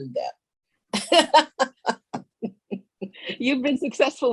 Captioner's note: all laughing